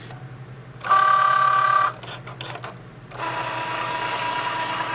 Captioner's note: machine whirring